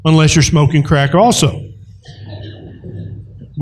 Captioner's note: laughter